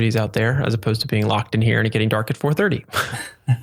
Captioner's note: laughs